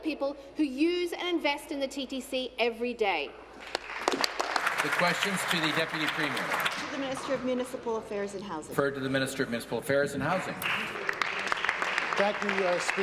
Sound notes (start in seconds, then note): 6.9 applause